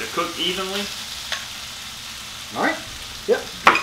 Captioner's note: meat sizzling